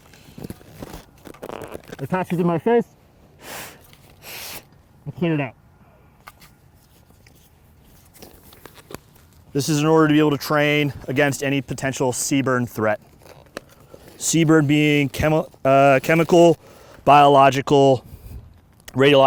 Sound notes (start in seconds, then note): 3.3 exhales; 3.4 inhales